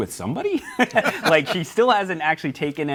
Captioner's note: panelists laugh